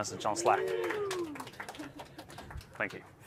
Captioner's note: applause